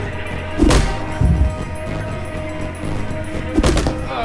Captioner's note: punches